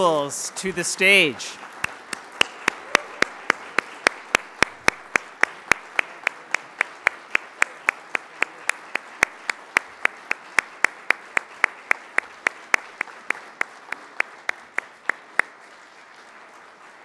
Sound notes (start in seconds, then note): 0.0 applause; 1.7 applause